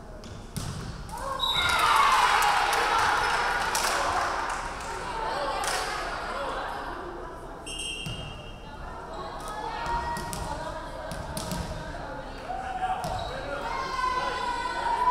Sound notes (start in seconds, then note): 1.2 crowd cheering; 2.0 referee whistling